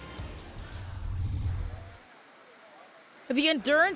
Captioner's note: scene whooshing